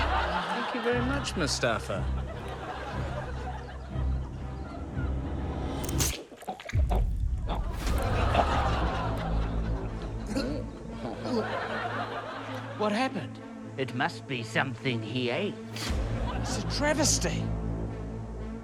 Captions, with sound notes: Thank you very much, Mustafa. (SUSPENSEFUL MUSIC) (SCHLING!) (CHOKES) - Hmm. (CHORTLES) - (CHOKES) What happened? It must be something he ate. It's a travesty!